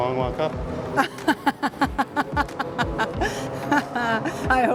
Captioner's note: laughs